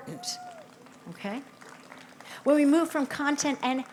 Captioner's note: audience cheers